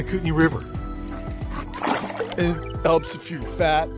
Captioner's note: water splashes